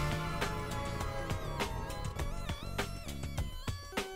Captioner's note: engine whirring